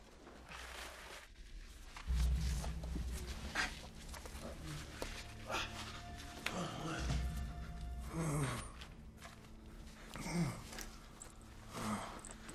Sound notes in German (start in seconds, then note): 3.2 Grunzen; 5.8 Stöhnen